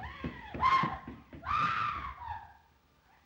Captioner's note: Eve screams